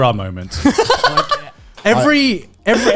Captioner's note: laughs